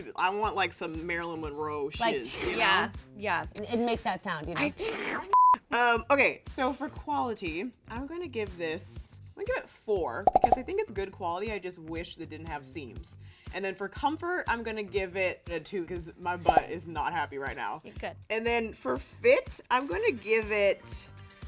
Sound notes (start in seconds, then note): 5.1 sucks air in; 5.3 beep; 10.2 popping; 16.5 popping